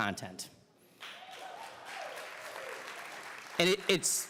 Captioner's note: audience cheering